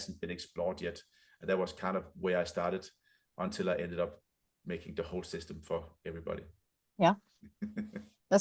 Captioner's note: chuckles